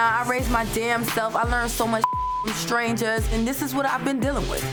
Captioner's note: beep